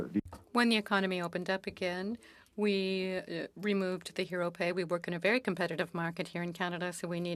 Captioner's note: speaking French